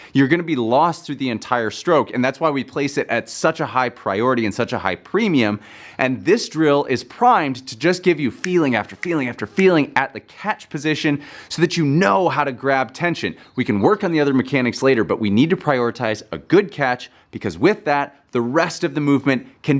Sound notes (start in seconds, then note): 8.8 fingers snapping